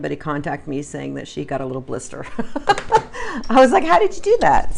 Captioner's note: laughs